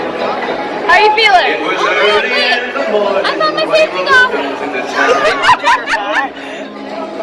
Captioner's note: laughing